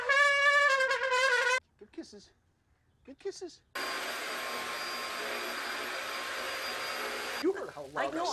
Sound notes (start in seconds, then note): 0.0 trumpet blares; 3.7 vacuum running